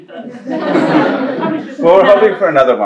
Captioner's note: laughter